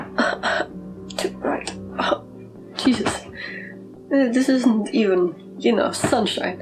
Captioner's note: tiny sobs